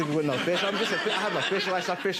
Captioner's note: audience laughing